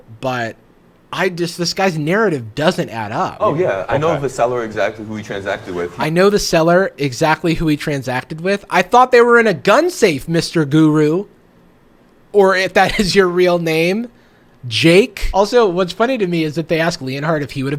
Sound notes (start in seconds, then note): 13.1 laughs